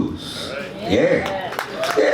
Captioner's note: audience cheers